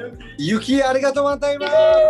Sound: non-english speech; cheering

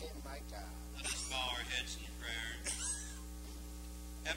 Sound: voice over microphone

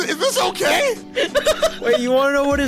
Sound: laughing

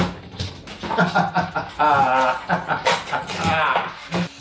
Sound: mad laughter

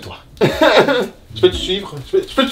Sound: sarcastic laugh

